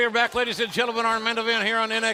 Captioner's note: crowd chatter